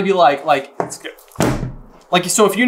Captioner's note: thud